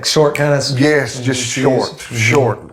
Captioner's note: snaps